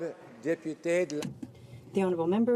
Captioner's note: speaking French